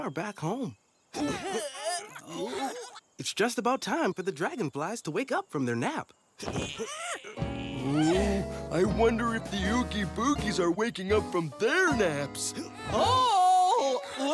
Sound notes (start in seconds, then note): 1.2 pulling efforts; 4.9 pulling efforts; 6.4 groans